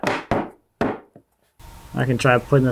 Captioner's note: tools bang